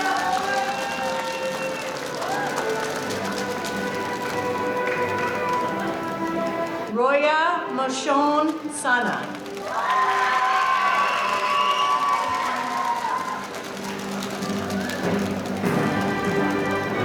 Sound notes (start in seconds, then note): 0.0 audience cheering; 9.3 audience cheering; 12.4 band playing